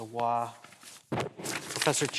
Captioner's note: paper rustling; mic thuds